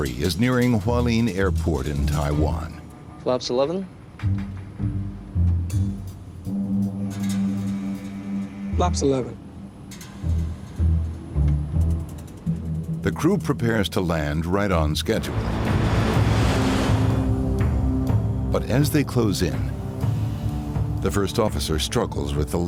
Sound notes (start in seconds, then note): 4.4 sinister music; 10.4 sinister music; 14.8 airplane engine roaring; 15.5 sinister music